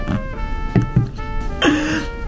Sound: slurps; can thuds

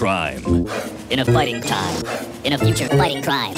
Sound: whoosh; whoosh

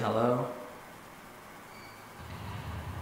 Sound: screech

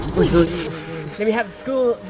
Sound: laughing

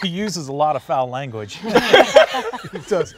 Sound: all laughing

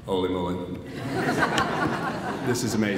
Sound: audience laughs

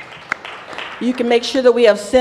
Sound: applause

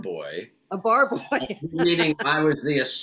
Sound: laughs

